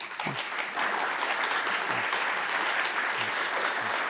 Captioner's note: audience applauds